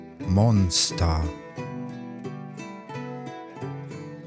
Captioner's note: german